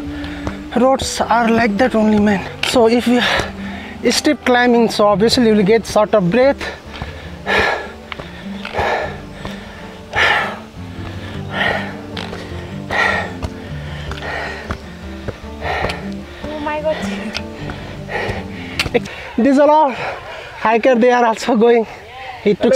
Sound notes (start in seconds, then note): 6.5 deep Breathing